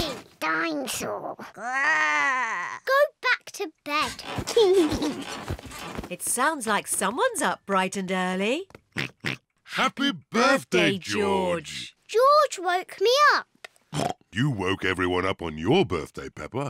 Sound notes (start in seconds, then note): 1.4 growls; 4.4 laughs; 8.6 oinks; 13.9 oinks